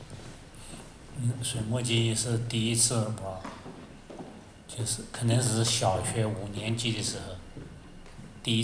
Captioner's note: Mandarin